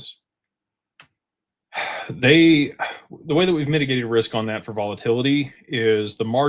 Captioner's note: sighs